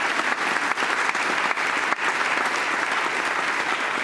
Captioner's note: applause